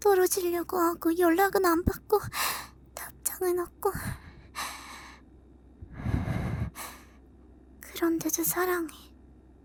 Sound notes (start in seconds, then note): 5.9 nervous inhale; 5.9 trembling sigh